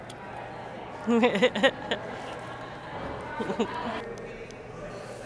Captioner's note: laughter